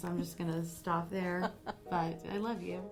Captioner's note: laughing